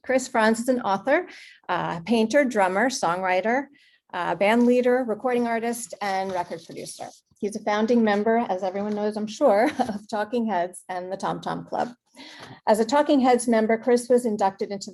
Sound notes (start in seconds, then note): 9.7 chuckles